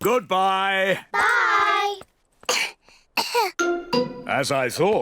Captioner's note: both cough